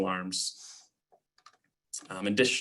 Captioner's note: clicking